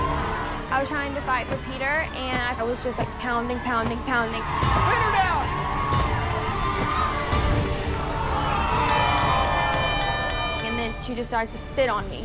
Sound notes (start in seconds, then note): 0.0 cheers and applause; 8.1 audience groaning; 8.8 bell dinging